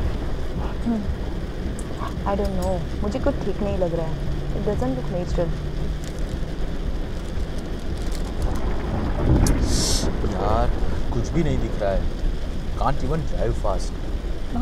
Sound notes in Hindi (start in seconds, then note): 8.4 पास में बिजली गिरने की आवाज